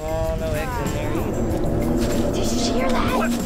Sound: dinosaur roaring

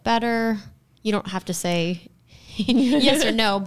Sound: all chuckles

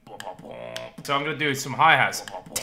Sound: beat boxing

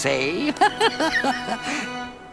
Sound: laughing

